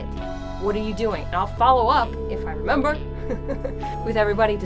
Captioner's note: laughs